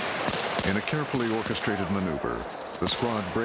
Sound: voiceover

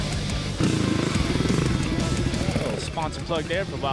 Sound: motor rumbling

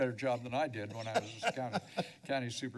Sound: laughter

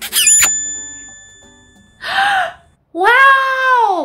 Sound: kiss effect

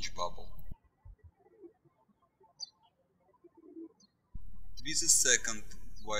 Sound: bird chirping

